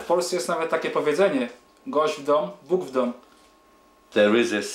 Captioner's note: speaking Polish